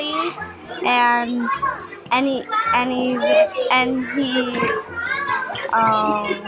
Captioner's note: children chattering